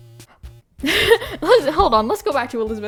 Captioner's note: laughs